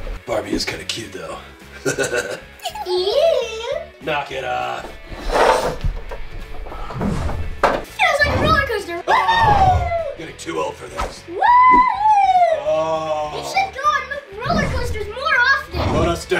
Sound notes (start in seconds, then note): 1.7 laughs; 2.6 Barbie Giggles; 5.8 toy Car Wheels Rolling; 11.4 cheering